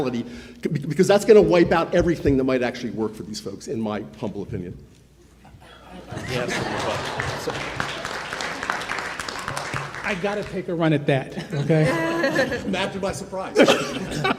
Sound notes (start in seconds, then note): 6.1 attendees applauding; 11.2 panelists laughing